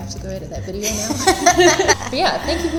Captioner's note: laughing